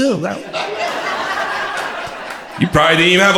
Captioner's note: crowd laughter